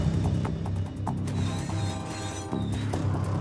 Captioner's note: train horn blows